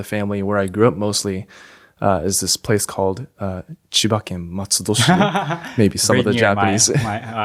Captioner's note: laughs